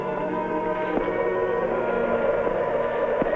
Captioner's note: dramatic music; wind blowing